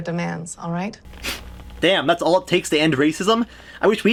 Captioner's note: scoffs